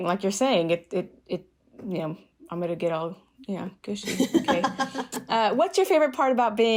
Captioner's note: laughter